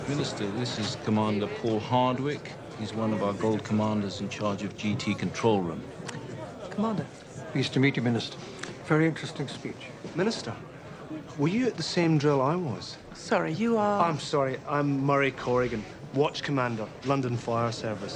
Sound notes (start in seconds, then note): none